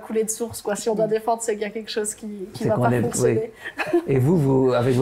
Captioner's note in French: rire